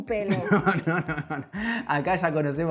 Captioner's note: laughs